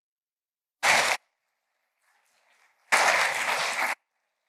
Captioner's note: applause